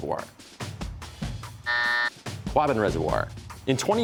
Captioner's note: buzzer